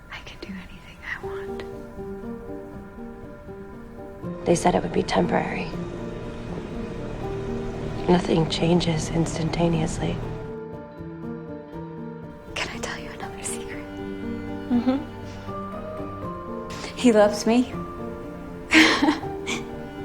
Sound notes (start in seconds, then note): 4.4 voiceover; 8.2 voiceover; 12.8 voiceover; 18.7 Janine laughs